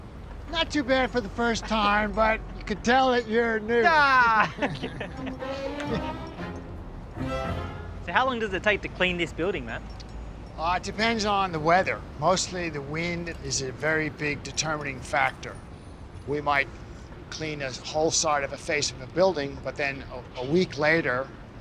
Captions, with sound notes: Not too bad for the first time, but you can tell that you're new. Ah! (BOTH LAUGH) How long does it take to clean this building, Matt? It depends on the weather. Mostly the wind is a very big determining factor. We might clean a whole side of a face of a building, but then a week later,